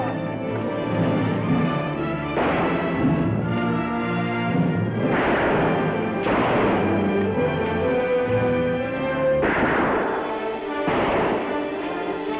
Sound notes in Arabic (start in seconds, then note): 2.2 طلقات نارية